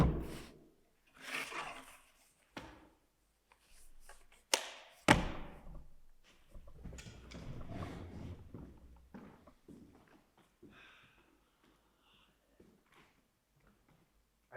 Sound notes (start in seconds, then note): 0.0 book thuds; 5.1 clipboard thuds